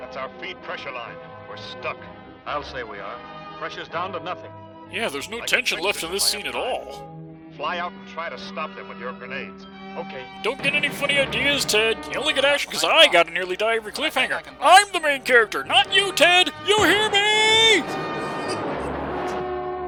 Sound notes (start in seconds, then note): 16.5 yelling into the distance